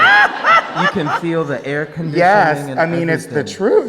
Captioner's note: Peppermint laughing; crowd laughing